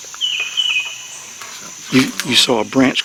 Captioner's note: equipment shuffling